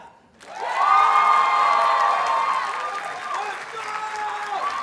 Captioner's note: audience cheers and applauds